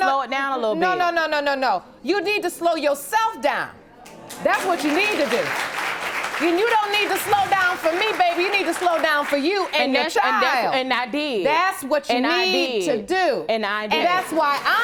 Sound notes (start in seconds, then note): 4.0 audience clapping